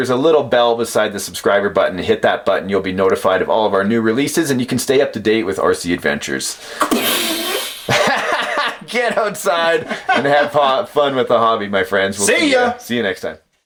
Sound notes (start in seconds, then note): 6.8 imitates explosion; 7.0 laughing